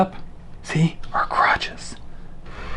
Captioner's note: whispering